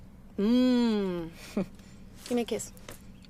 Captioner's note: laughs